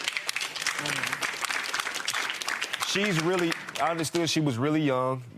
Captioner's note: audience applauding